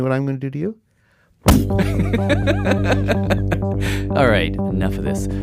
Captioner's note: thump; laughs